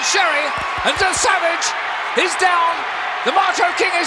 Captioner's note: audience cheering